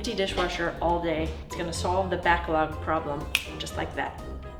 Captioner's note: snap